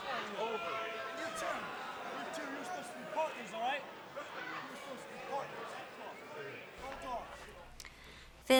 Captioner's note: crowd chatter